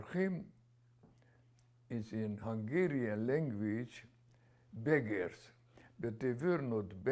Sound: hebrew

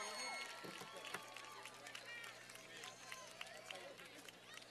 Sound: cheers and applause

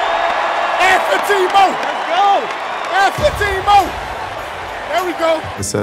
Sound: indiscriminate yelling

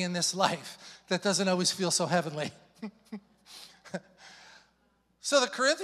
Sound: chuckling

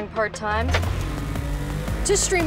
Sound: engine revving

